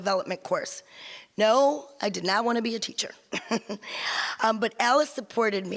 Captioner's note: laughs